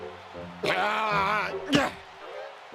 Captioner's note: groan